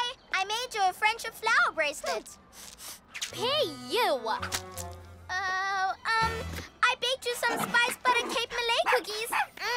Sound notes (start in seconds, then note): 2.5 sniffing